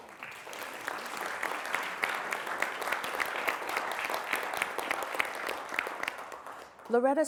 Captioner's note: applause